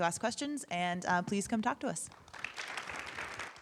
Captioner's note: audience applauding